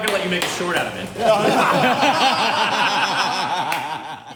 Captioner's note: uproarious laughter